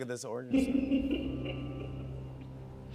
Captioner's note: laughs